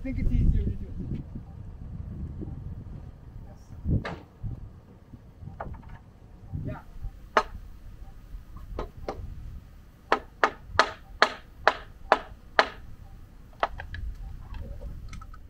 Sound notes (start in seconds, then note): 7.7 hammer banging; 11.6 hammer tapping